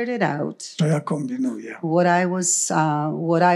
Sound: foreign language

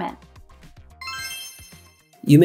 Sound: magical Spell Sound

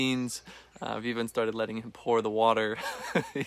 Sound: chuckling

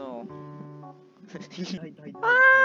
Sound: giggles

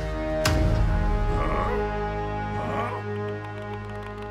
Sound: confused noises

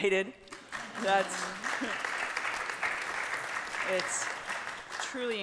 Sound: audience applauding

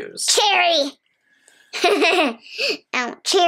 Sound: laughs

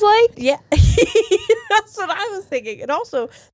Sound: laughs

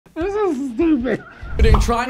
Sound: laughs

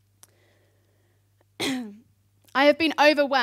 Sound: clears throat

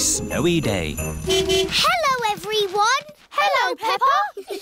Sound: horn honking; giggling

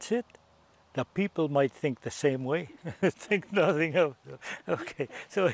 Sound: laughs

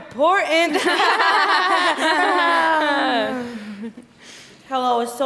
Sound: all laughing

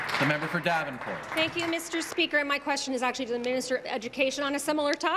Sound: applause

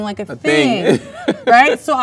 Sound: laughs

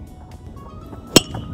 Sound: tennis ball hitting metal bat

